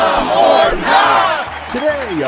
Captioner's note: applause